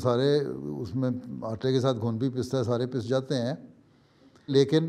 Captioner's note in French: ourdou